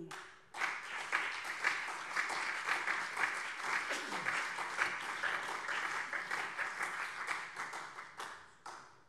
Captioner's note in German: Beifall SPD und CDU